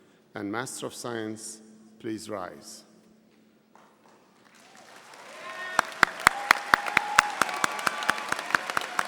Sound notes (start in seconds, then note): 4.5 audience applauding and cheering